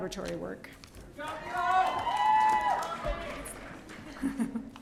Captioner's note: audience cheering